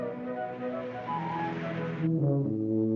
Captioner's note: whimsical music; car rumbles; tuba plays; whimsical music